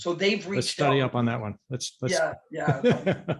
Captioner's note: laughs